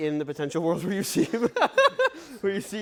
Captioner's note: laughs